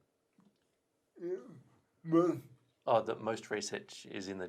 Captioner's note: murmurs